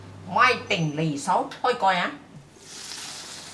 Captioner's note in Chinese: 廣東話